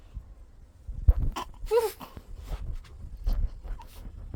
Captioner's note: sounds of struggle